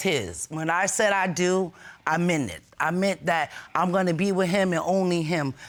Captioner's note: none